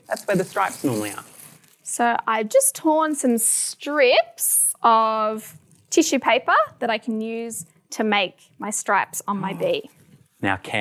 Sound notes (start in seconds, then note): none